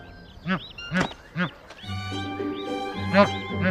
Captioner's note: adult geese honking